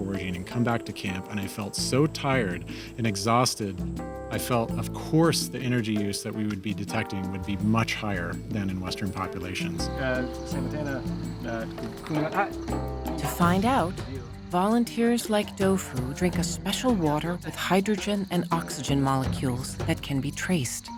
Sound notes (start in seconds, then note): 9.9 speaking local language